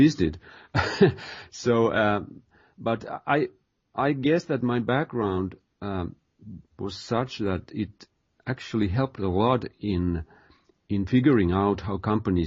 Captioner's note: chuckles